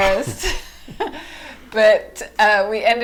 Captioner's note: laughing